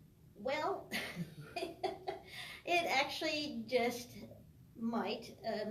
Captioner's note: laughs